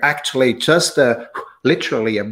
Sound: blows

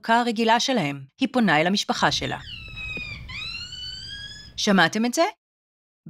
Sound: monkey noise

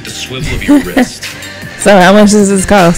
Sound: laughing

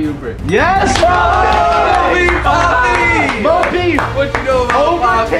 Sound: hand clapping

